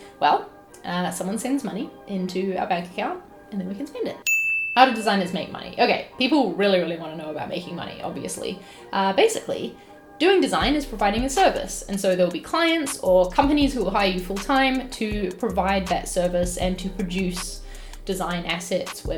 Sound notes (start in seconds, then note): 4.2 bell dings